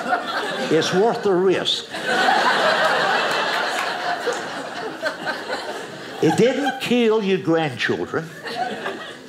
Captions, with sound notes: It's worth the risk. (audience laughing) It didn't kill your grandchildren.